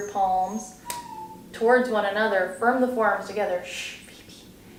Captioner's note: dog cry in background